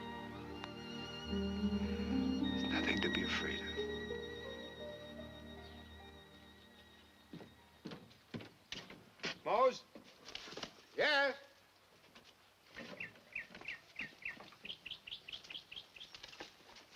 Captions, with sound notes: There's nothing to be afraid of. (shoes clacking) Mose. - Yes? (birds chirping)